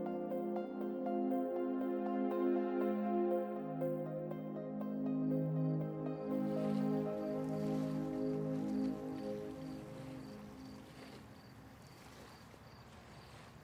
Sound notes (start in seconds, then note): 5.9 crickets chirping; 8.6 water splashing